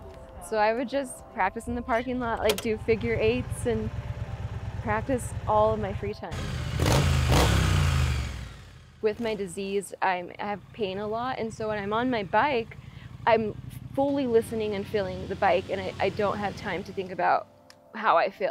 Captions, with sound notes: So I would just practice in the parking lot, like do figure eights and practice in all of my free time [motorcycle revving] With my disease, I'm have pain a lot. And so when I'm on my bike, I'm fully listening and feeling the bike. And I don't have time to think about how I feel.